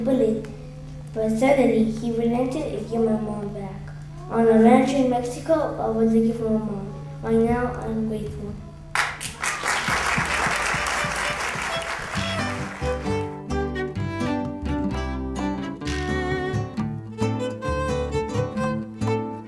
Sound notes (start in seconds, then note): 8.9 applause